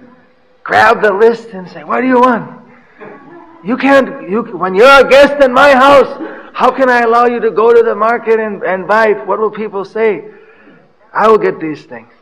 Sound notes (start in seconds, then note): 4.0 laughter